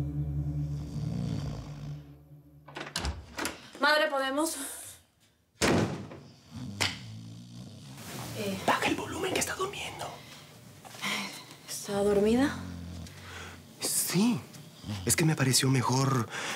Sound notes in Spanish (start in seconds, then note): 5.6 Cierra puerta; 9.0 Susurra; 14.6 Ronquidos